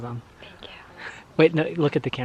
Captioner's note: whispers